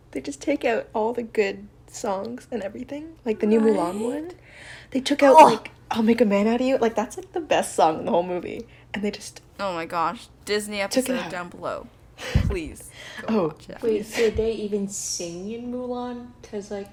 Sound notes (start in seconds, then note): 5.3 chokes